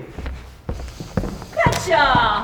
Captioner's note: heavy footsteps leaving